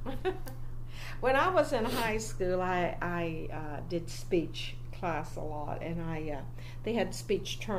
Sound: laughs

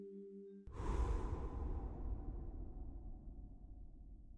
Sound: breath

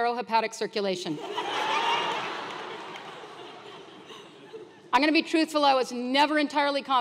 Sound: laugh

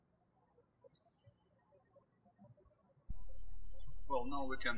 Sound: birds chirping

